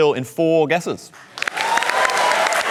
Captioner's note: cheering and applause